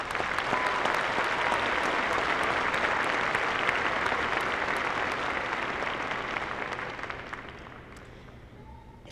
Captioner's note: applause